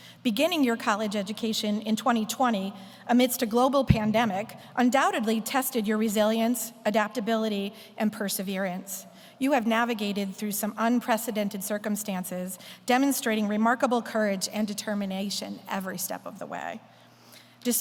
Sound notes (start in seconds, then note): none